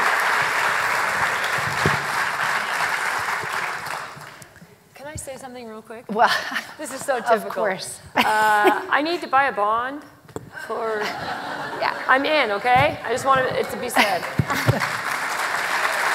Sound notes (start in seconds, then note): 4.5 applause